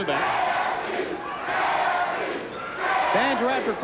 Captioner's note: crowd chanting